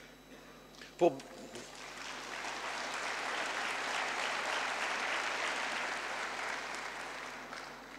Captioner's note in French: Applaudissements